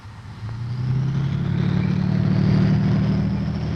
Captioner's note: tank engine rumbling